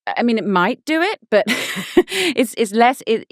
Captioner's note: laughing